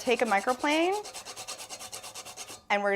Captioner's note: nutmeg grinding against the microplane